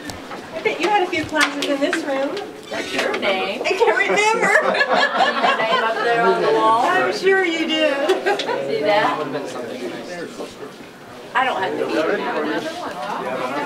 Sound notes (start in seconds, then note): 4.1 woman laughing